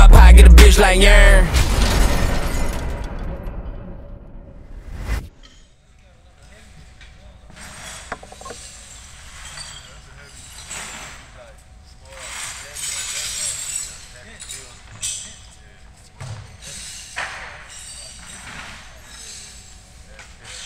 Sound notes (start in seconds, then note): 1.5 shatters; 7.5 sweeping up glass